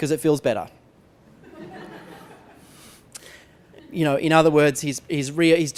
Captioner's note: laughter